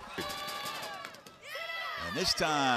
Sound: crowd shouting

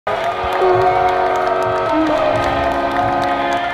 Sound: cheering and clapping; electronic music

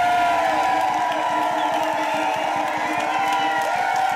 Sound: crowd cheering

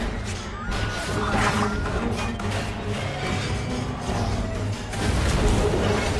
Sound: crowd shrieks; water splashes

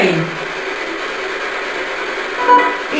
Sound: white noise

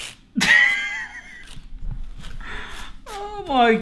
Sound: laughing

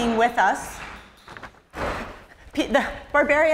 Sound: door off-screen bangs

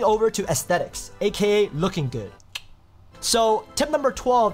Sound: clicks tongue

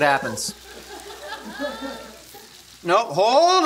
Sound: laughing

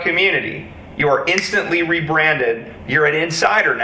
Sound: fingers clicking

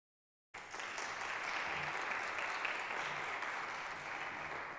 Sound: applause

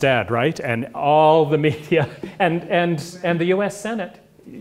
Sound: laugh

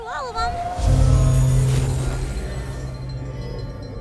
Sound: droning

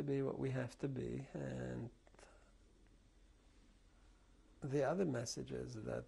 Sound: pauses for 3 seconds

